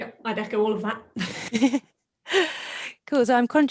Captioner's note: laughing